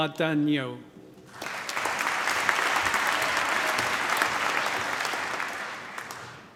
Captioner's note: applause